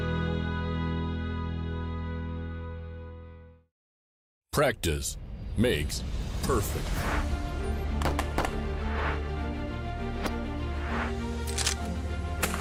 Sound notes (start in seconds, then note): 8.0 gunshots; 9.6 dramatic music